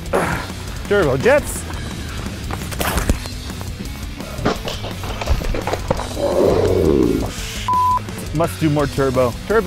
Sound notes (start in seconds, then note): 0.1 grunting; 4.2 Turbo Jetts scraping